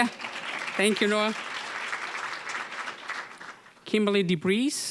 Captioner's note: applause